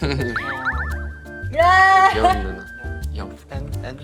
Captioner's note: whispering